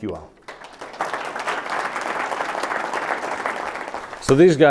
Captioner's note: clapping hands